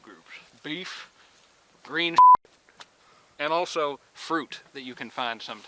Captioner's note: beep